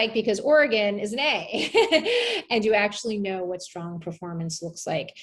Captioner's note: laugh